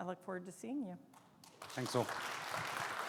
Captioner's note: audience clapping